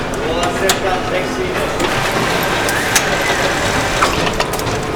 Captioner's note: machines whirring